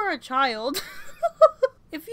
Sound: laughter

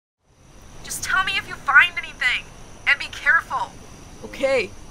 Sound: on the phone

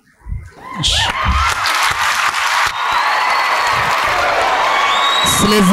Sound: applause

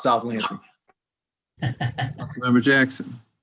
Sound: laughs

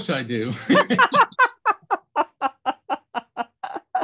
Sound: laughing

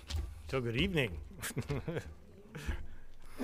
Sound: laughs

